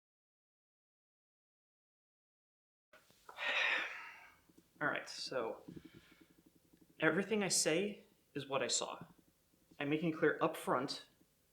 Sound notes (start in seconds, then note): 3.3 Brian sighs